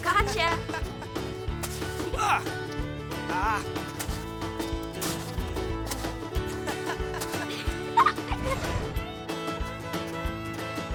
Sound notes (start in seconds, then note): 2.1 Jack grunting; 6.4 Ryan laughing